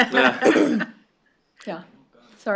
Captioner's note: laughter